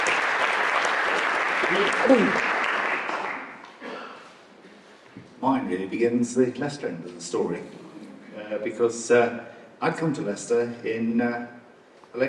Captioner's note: applause